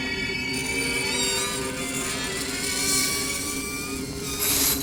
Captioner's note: gate creaks